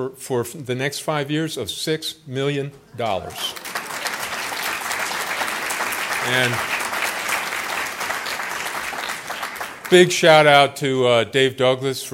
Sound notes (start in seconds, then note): 3.4 applause